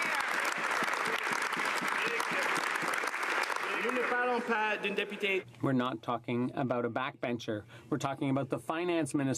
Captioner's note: some Applause